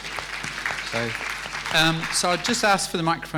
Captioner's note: applause